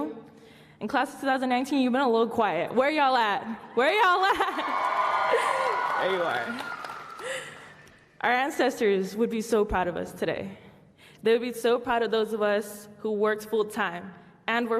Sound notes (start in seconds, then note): 4.2 laughs; 4.4 applause